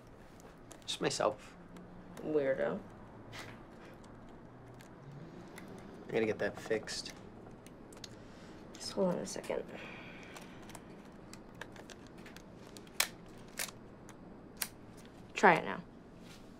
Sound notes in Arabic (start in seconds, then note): 13.5 نقرات الغالق